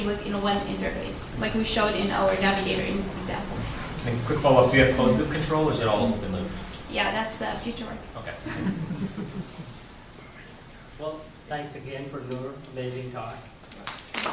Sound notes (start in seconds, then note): 8.4 audience laughs